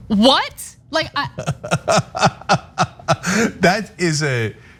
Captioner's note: laugh